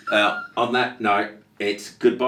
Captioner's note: laughing